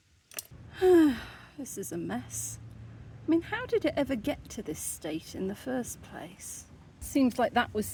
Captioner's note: sigh